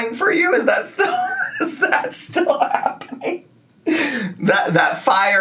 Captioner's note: laughing